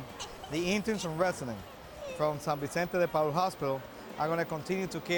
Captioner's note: speaks in Spanish